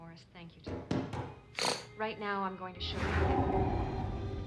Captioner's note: knocking at door; snores